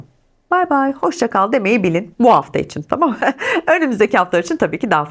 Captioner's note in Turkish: kahkaha